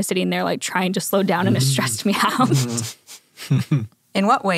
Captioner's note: laughs